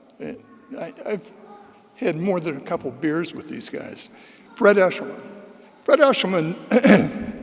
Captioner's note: clears throat